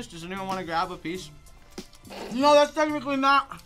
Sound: snickers

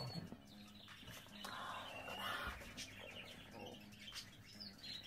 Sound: birds chirping

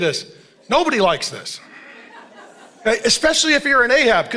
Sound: congregation laughing

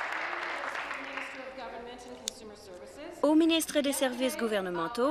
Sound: applause

